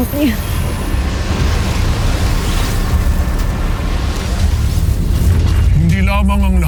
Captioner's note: evil energy whoosh & crackle; music swells